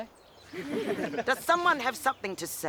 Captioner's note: laughing